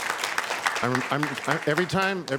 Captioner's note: applause